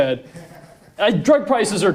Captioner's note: laughing